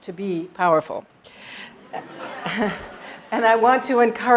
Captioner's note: laugh